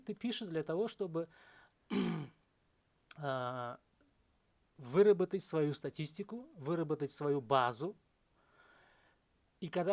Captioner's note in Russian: кашель; откашливается